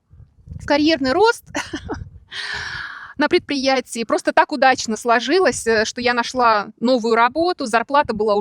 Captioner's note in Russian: тяжело вздыхает